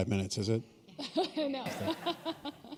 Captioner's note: chuckle